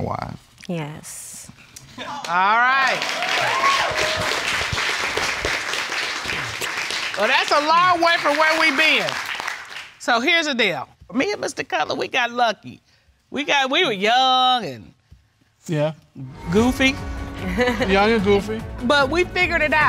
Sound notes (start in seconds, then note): 4.1 audience cheering and applauding